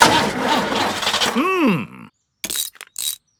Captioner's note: engine sputtering